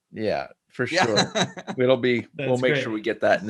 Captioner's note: both laughs